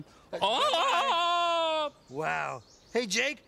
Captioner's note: Tarzan yell